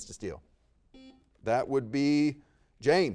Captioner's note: buzzer beeps